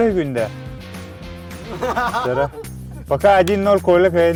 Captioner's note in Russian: смех